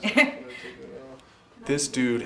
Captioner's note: laughs